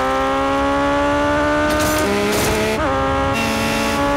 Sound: clanking

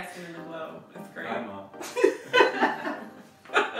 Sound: laughs

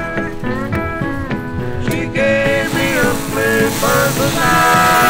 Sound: upbeat country music; metalworking noises

